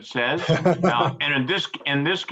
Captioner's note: laughs